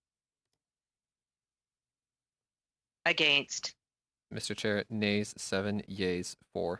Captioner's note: speaking French